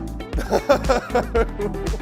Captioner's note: laughs